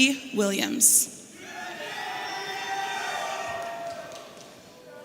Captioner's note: audience cheering